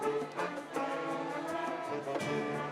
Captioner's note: none